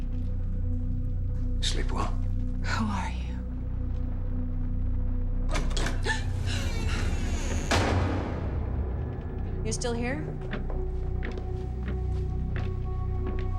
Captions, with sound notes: Sleep well? - Who are you? (door clicks) (Jill gasps) - You're still here?